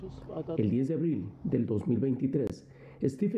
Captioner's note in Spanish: habla en ingés